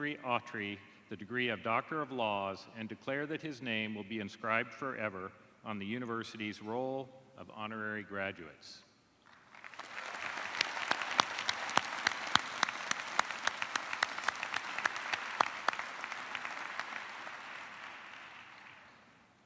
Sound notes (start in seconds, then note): 9.2 applause